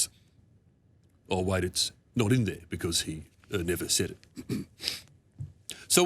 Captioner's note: clears throat